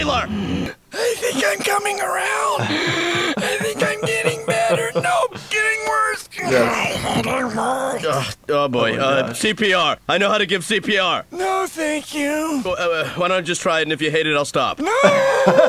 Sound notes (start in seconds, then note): 2.5 laughing; 2.5 wheeze; 6.4 choking